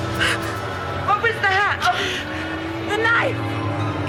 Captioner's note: Nicolette gasping